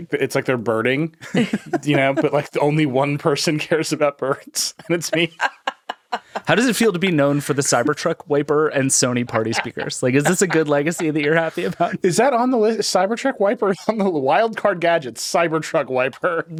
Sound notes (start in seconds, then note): 1.2 all laughing; 4.3 laughing